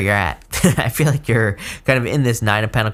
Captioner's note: chuckles